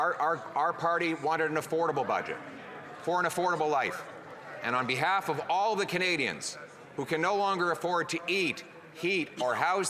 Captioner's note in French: voix de l'interprète